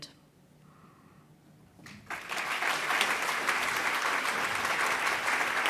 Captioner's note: applause